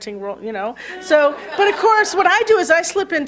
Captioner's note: laughter